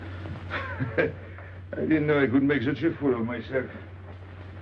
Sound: laughing

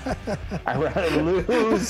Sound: laughing

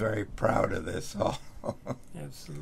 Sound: laughs

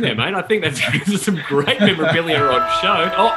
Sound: horn blaring

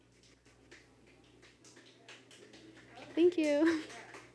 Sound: background clapping

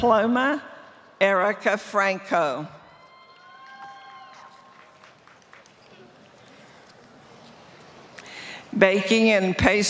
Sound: applause

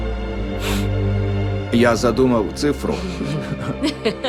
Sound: woman laughing; woman laughs

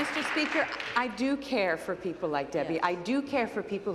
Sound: applause

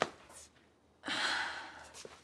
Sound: sighs

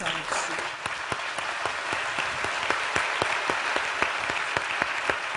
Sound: applause

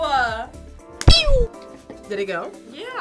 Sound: wrapper squeaks

